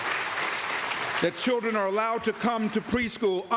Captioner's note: applause